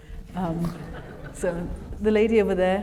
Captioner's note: audience laughs